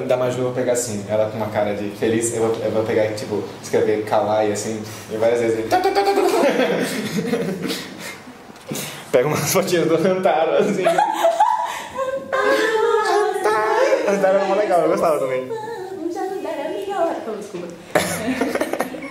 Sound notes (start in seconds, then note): 10.8 weird laugh